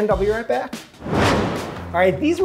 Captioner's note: fire whooshing